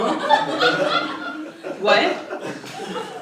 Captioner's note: laugh